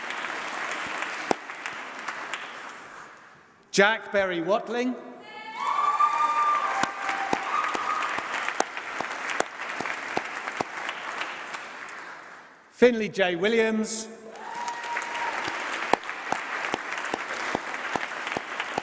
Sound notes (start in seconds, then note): 5.1 applause; 14.4 applause